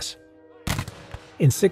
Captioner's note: gun shot